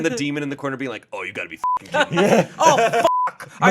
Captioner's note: beep